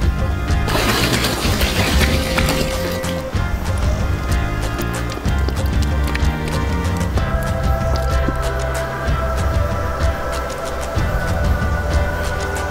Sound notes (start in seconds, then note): 5.3 dripping